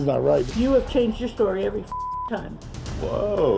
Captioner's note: beep